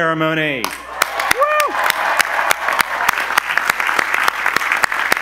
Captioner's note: audience applause